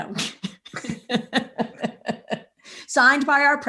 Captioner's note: both laughing